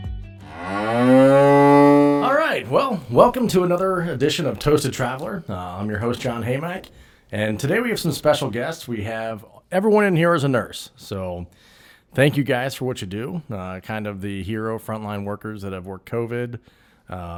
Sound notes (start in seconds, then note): 0.4 cow mooing